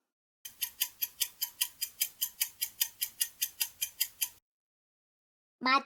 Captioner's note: alarm clocks ticking